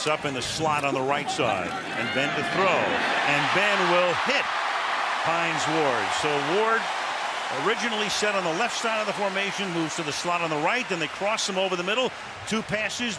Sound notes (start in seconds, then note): 2.9 cheering